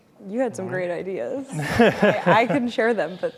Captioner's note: chuckles